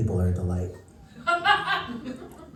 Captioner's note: laughter